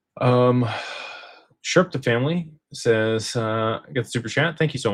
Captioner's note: sighs and gasps